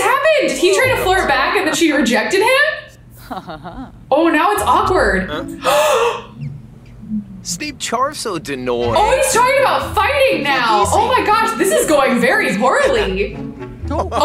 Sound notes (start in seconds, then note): 5.4 gasps